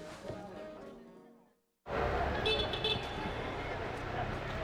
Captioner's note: city commotion